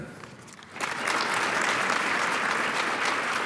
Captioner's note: applause